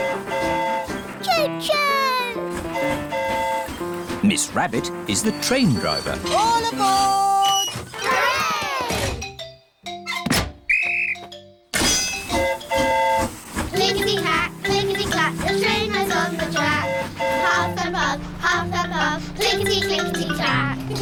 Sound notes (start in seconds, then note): 2.5 train horn hooting; 10.6 blows whistle; 10.7 train horn toots